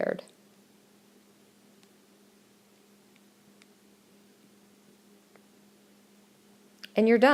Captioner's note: silence